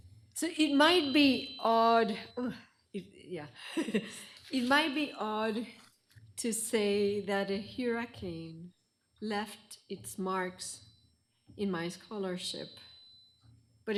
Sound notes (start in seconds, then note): 3.6 chuckles